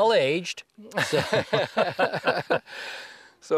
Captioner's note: laughter